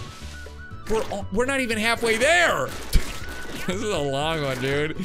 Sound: laughs

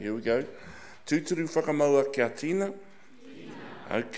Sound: speaking in foreign language

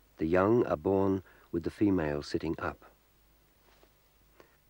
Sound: none

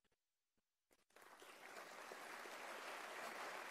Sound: applause

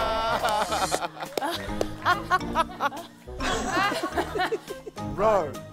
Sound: laughter

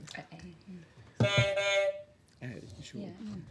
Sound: honk

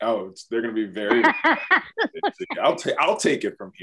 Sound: laughs

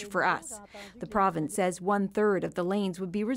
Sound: speaking french

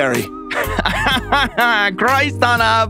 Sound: laughs

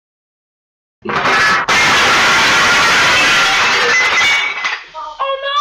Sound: صوت تحطم الطاولة

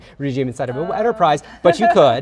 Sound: laughs

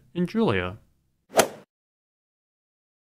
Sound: swoosh

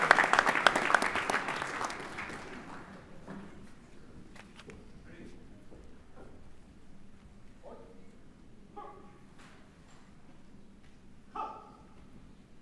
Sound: applause

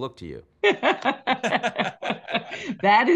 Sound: laughing

